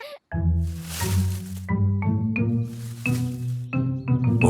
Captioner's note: bush rustling